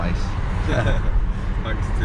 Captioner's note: laughing